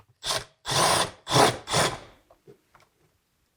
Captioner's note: tool whirring